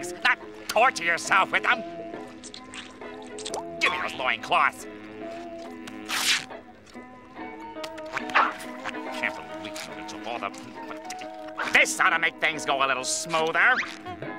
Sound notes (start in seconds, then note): 5.3 ripping